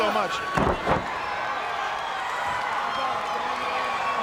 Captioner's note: body slamming